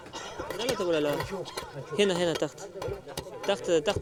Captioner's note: Arabic spoken audio